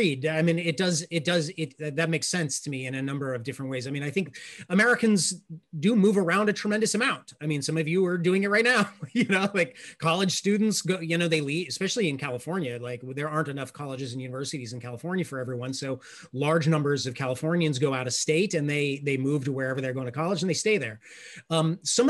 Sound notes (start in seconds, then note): 8.8 laughs